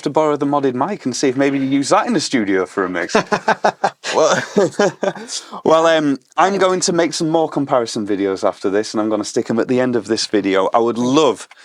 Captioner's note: chuckles